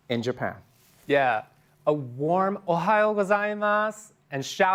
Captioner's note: japanese